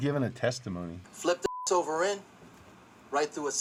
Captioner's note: beep